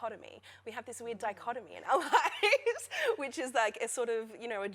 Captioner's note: laughter